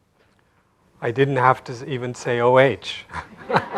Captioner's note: laughter